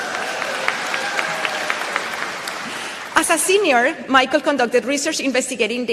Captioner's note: applause